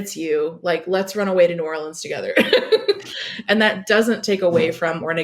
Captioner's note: laughs